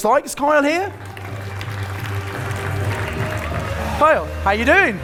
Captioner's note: audience applauding